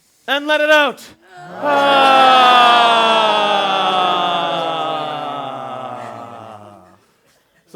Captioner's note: long, descending exhale